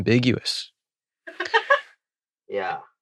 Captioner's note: laughs